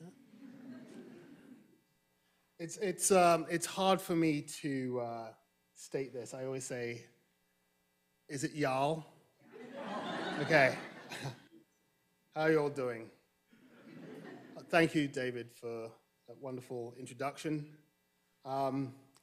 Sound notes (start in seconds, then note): 0.1 audience chuckling; 9.5 audience laughing